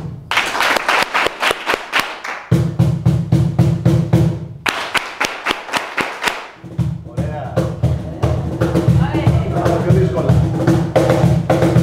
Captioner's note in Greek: χειροκρότημα